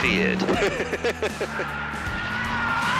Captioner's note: laughs